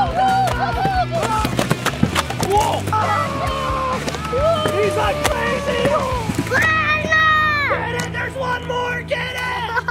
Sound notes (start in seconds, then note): 0.1 yelling; 6.6 yells